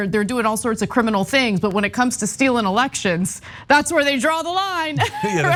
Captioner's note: laugh